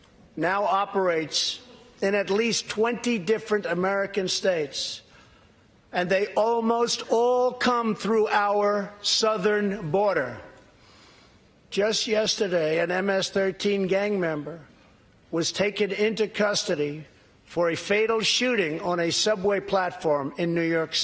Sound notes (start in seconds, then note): none